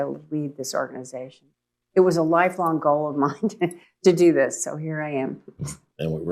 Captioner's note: laughs